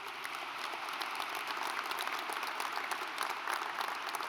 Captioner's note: audience applauds